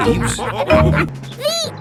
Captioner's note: all laughing